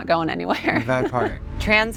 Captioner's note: laughs